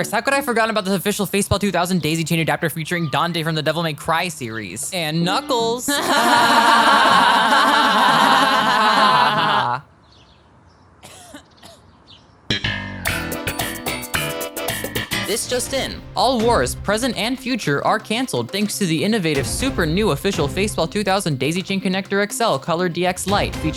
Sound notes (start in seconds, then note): 5.8 laughing; 11.0 awkward cough